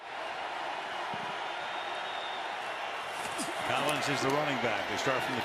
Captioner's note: crowd cheering